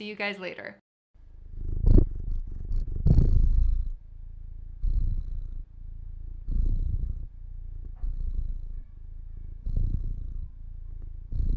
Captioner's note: purring